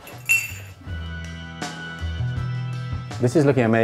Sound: glasses clinking

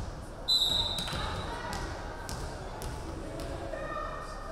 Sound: referee whistling

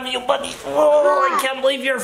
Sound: groans

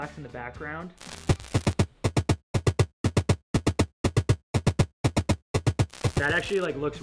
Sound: upbeat drum music; static crackling

